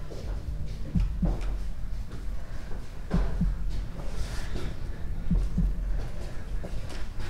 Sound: footsteps thudding; both breathing loudly

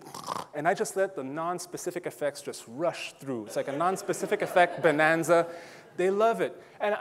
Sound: audience laughing

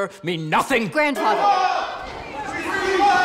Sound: indistinct shouting

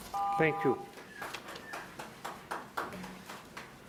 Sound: timer beeps

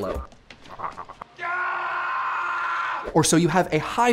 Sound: scream

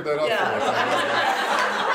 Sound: laughter

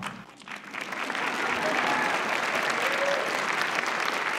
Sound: applause

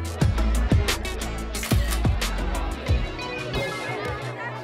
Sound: camera clicking

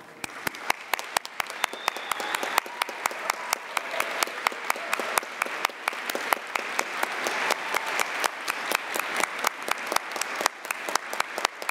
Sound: applause

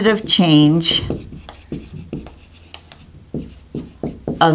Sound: sounds of marker writing

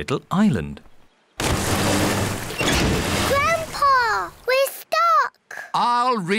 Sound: rumbling

